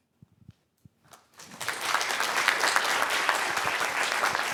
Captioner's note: applause